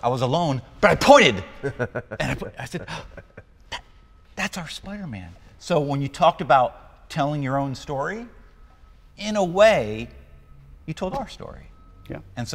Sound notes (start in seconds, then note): 2.8 gasping